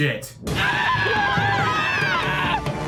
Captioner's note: screaming